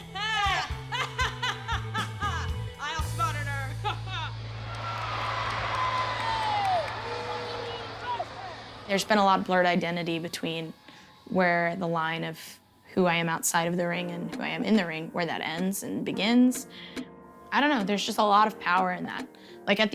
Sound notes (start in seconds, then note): 0.9 laughs; 4.5 audience cheers and boos